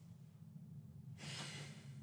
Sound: sighs

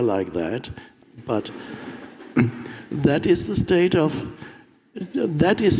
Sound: audience laughing

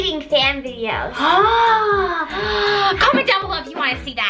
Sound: Gertie gasping

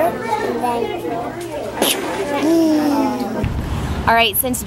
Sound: gun bangs; engine roars

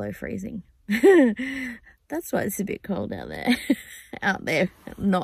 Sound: scoffs; laughing

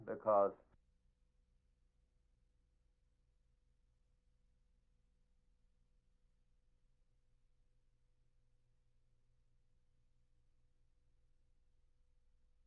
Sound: silent

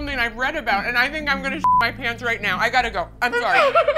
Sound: beep

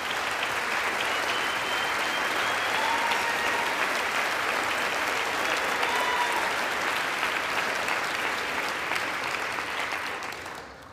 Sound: applause

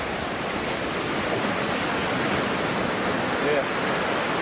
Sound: waves crashing

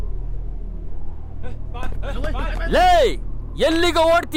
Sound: Malay Language

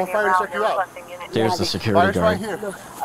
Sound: radio dispatching in background

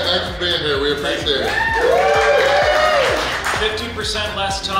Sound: cheering & Clapping

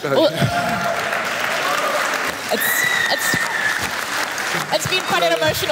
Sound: applaus

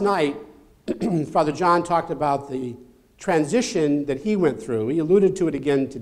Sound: cough

